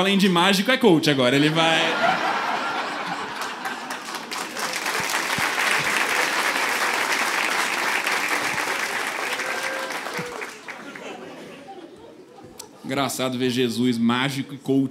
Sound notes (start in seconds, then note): 4.4 applause; 6.8 applause